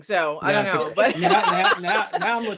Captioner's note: laughing